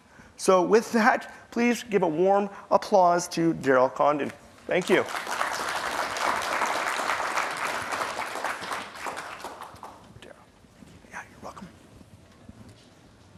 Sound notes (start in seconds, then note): 4.7 applause; 10.7 whispering